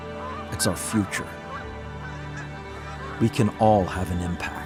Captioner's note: birds cawing